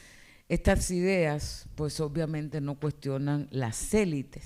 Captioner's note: speaking spanish